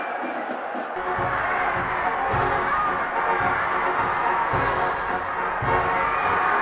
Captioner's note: crowd cheering; military band playing